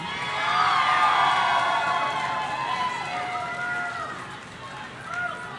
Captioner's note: audience cheering